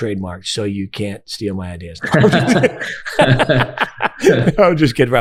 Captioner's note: both laughing